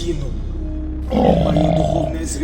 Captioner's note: growling